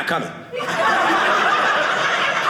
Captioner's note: audience laughing